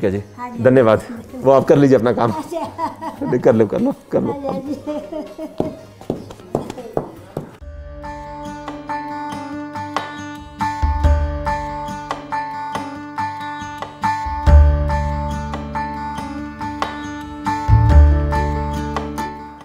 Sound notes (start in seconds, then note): 2.4 laughter